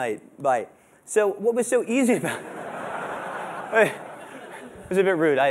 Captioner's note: laughter